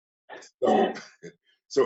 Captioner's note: chuckles